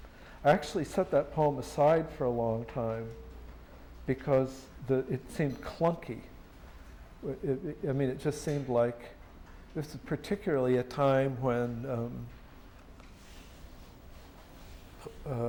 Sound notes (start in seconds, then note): none